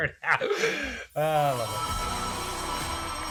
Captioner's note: laughter